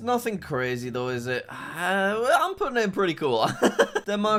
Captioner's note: laughs